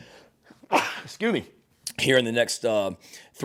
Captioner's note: sneezes